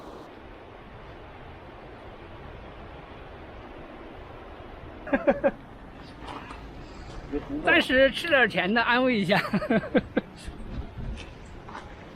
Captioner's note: speaking Chinese